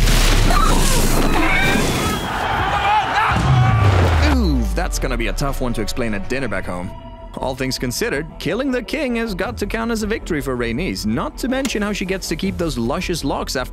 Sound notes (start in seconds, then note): 0.5 screeching